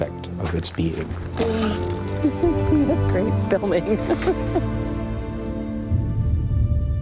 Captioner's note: laughs